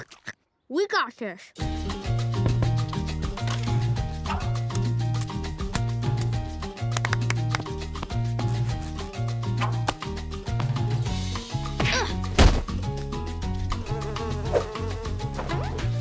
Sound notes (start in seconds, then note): 6.9 clapping; 13.7 buzzing